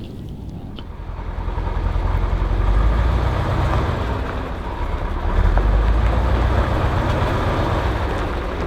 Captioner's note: engine roar